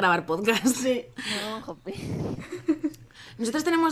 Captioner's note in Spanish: risas; risas